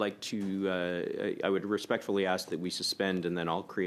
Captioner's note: speaking French